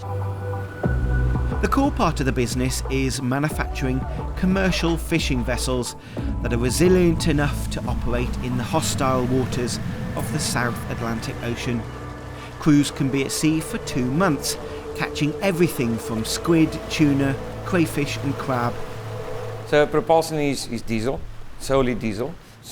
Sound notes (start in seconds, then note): 0.2 upbeat music; 11.8 water sloshing